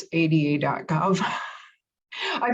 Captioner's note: laugh